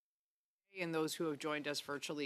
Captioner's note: speaking French